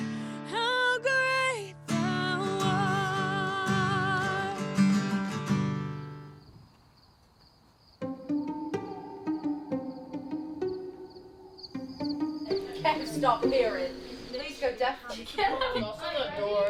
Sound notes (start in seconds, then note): 6.1 crickets chirping; 8.0 silly music